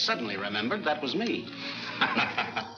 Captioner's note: Bill laughs